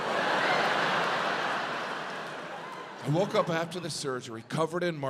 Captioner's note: audience laughs